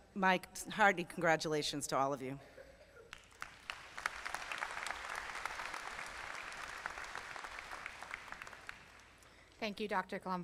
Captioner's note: applause